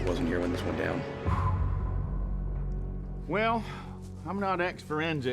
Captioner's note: blowing out